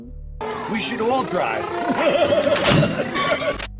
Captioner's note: weird laugh